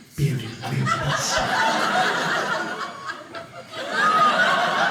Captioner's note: audience laughing